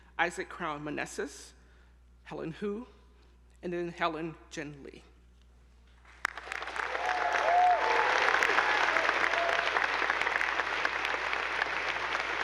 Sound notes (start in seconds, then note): 6.2 attendees applauding; 6.3 audience whooping